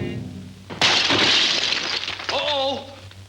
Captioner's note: glass shattering